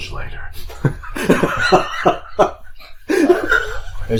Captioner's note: guffaws